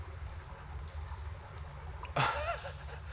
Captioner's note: laughing